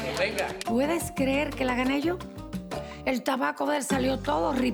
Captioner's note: speaks Spanish